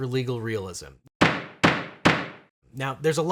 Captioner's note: gavel banging